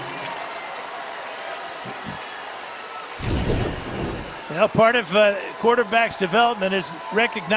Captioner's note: cheers and applause